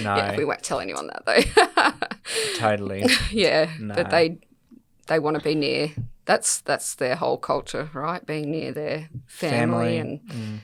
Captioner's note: laughs